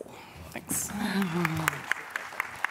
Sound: applause

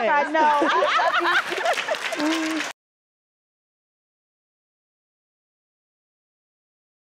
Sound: laughter; clapping

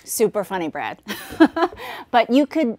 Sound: laughs

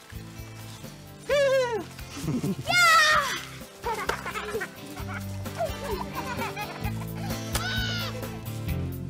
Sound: yelling and Laughter

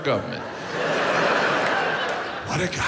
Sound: audience laughs

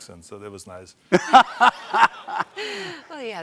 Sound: laughter

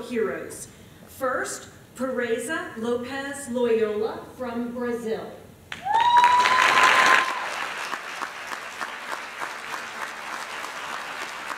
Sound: applause

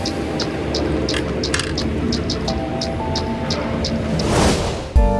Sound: cup holder clicking; transition whooshing

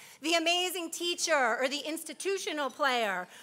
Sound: none

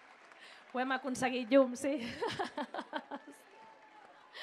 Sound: laughs

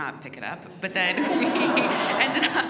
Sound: audience laughs

